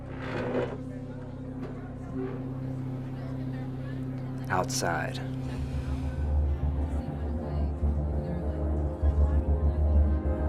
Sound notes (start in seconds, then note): 0.0 chair scraping; 5.5 Blades exhales; 7.3 suspenseful music